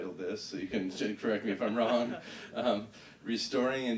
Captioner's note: laughing